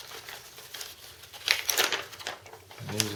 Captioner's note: rustling paper